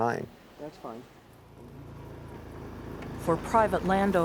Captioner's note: ATV motor